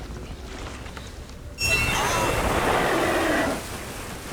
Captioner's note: roaring